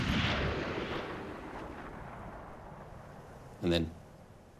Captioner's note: gunshots stop